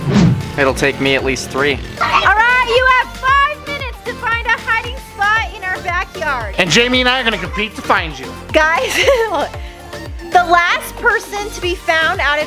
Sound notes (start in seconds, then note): 8.6 laughs